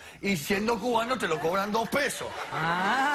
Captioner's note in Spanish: risas